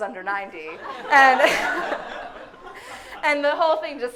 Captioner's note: audience laughing hysterically